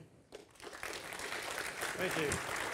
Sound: applause

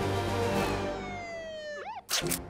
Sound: sirens wail

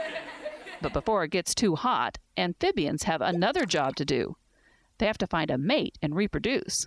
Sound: laughter

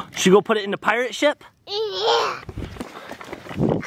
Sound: imitates pirate voice

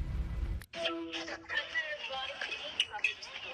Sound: facetime ring

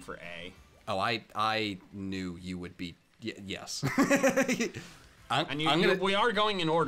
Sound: laughs

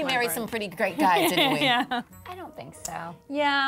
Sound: laughs

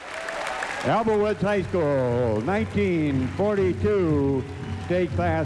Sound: loud applause

